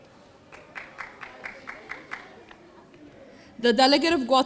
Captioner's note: audience applauding